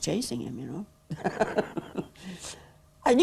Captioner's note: laughs